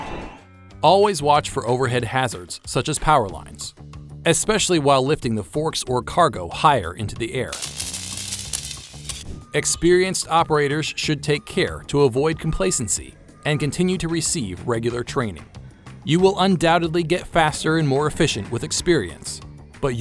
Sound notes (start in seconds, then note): 7.5 electrical arcing sounds